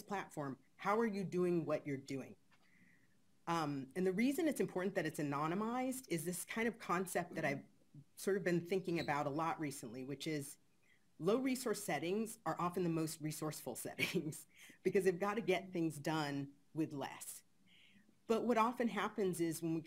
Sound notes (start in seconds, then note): 14.3 chuckles